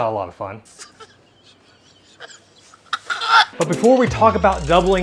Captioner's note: crying